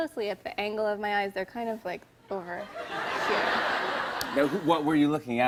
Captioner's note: laughter